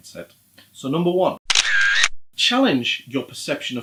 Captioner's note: camera shutter